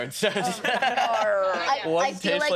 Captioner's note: laughing